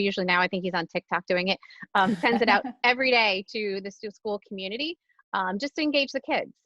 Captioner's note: laughter